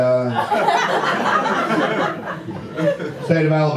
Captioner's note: audience laughter